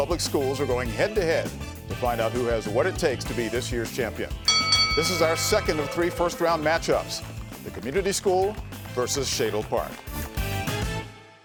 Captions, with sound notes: are going head-to-head to find out who has what it takes to be this year's champion. (bell dinging) This is our second of three first round match-ups. The Community School versus Shadle Park.